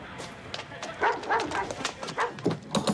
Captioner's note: dog barking; door knocker banging